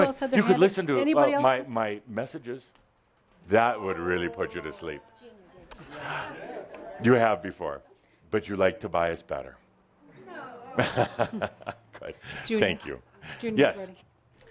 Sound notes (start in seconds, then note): 10.6 chuckling